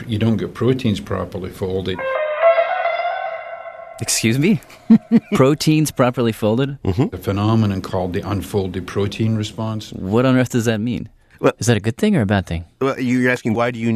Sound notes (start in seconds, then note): 4.1 laughs